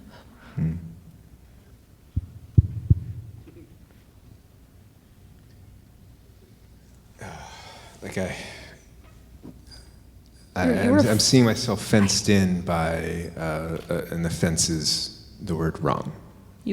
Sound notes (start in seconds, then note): 7.2 breathing out